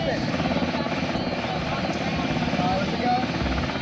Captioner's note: helicopter blades drown out speaker